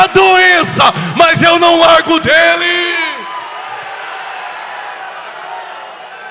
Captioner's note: applause